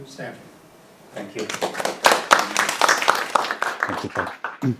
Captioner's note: audience applauds